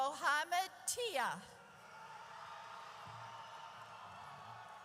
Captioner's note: audience cheers